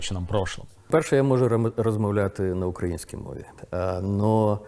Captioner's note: in Ukrainian